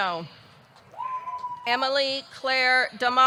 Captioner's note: audience cheering